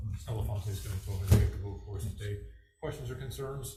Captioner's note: faintly speaking